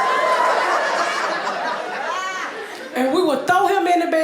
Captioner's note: audience laughing